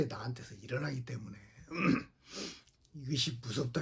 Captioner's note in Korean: 목을 가다듬음; 콧방귀